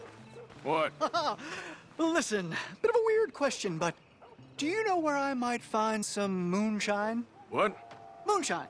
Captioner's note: laughs